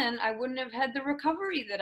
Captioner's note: none